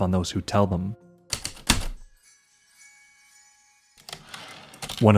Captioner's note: heavy typewriter keystrokes, light chimes, typewriter return slide